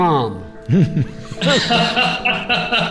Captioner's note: laughter